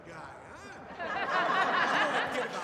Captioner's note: audience laughing